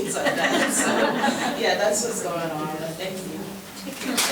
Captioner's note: board members laughing